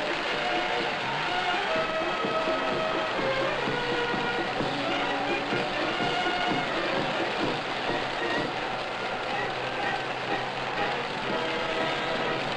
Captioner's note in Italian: Applauso